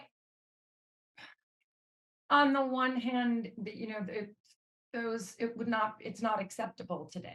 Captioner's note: sighs